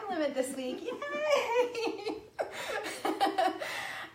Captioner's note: laughing